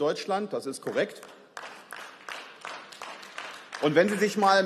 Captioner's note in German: Beifall